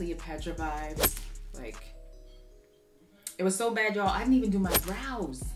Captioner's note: photo swooshes